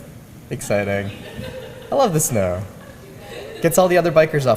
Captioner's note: laugh